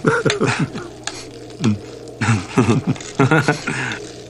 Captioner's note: chuckles; laughs